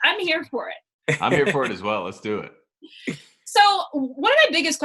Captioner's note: laughs